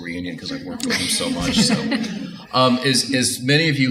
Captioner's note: audience Laughter